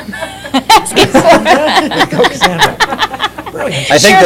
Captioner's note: laughter